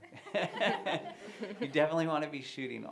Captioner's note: laughter